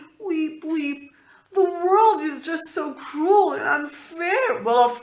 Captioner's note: weep weep